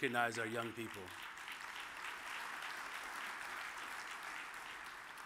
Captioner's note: audience applauds